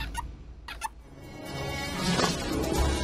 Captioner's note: marker squeaking